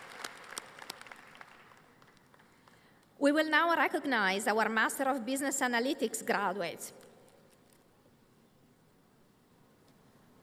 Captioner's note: applause